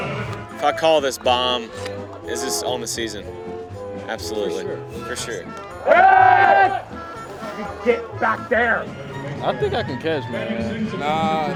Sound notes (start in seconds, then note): 6.9 shouting